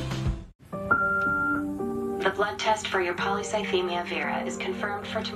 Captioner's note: answering machine beeps